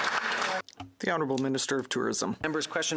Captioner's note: applause; speaking in French